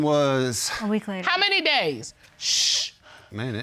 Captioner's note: shushes